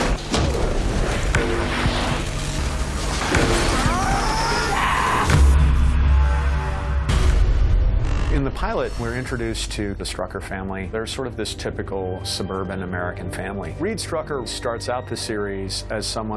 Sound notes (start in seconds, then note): 3.6 screams